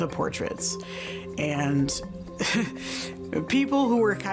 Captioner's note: laughs